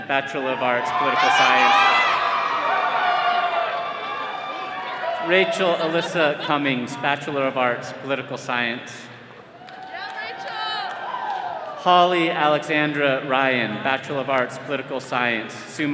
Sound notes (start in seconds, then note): 1.7 all cheering